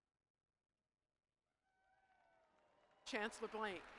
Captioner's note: applause